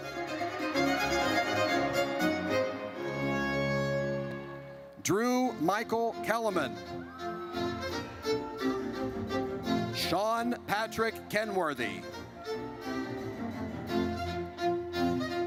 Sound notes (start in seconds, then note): 0.1 triumphant music; 6.9 audience cheers; 12.3 triumphant music